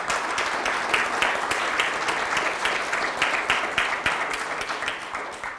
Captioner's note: audience applause